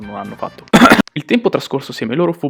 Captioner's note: ahem